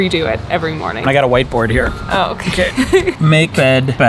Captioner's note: chuckles